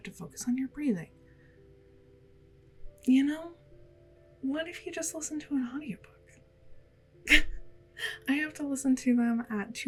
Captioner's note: laugh